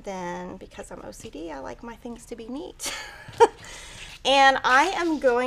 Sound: chuckles

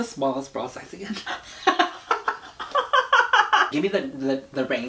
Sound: laughs; gasps

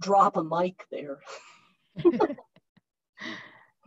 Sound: laughs

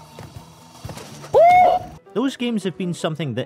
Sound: screams

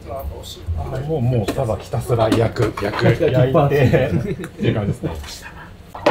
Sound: laughs

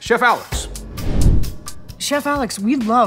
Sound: whoosh

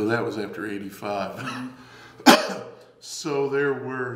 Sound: coughs

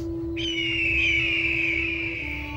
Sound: eagle Cries

